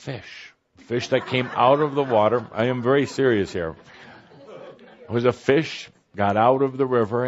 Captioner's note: laughter